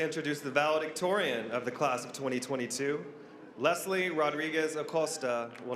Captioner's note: applause